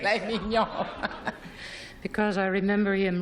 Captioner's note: laughs